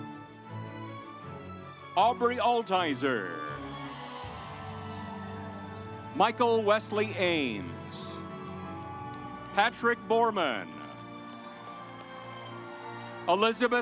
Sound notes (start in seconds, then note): 0.0 stately music; 3.6 audience applauds; 8.2 stately music; 10.2 audience applauds